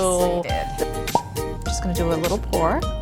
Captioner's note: cork popping